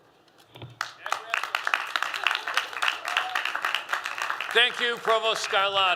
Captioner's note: applause